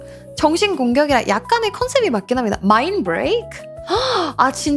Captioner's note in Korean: 헉 소리